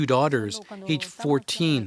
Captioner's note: speaking Spanish